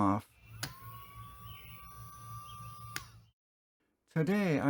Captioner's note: pump whirring